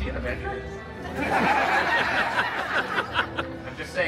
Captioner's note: guests laughing